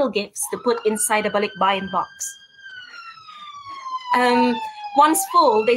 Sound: siren wails

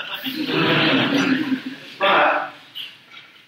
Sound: audience laughs

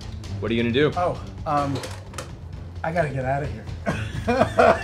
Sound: laughs

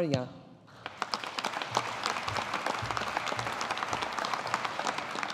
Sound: audience applauding

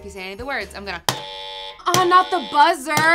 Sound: incorrect buzzing

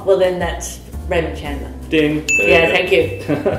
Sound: ding!

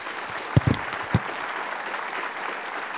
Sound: applause

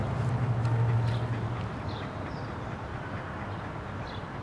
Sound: dog pants

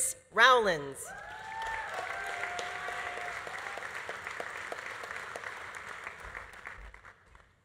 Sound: audience cheering; audience applauding

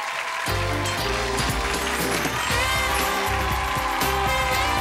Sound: audience applauding

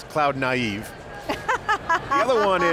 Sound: laughs

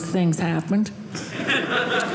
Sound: audience laughing

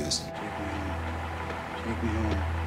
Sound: jeep engine running

